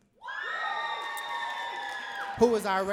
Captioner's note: audience cheering and clapping